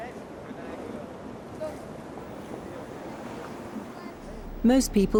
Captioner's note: people chattering